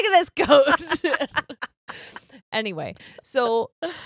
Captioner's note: all laughing